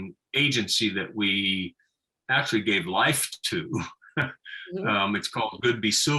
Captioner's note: laughing